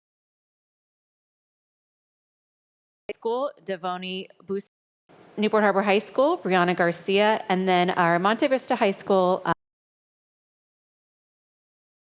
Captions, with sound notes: School, Devoni (audio distorts) Newport Harbor High School, Brianna Garcia, and then our Monte Vista High School (audio distorts)